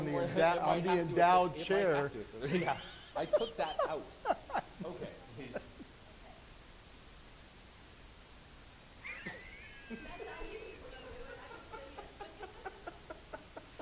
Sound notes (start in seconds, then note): 2.4 laughing; 6.3 voiceover; 9.0 laughing